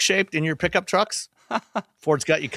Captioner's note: laughs